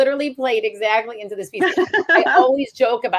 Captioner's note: laughs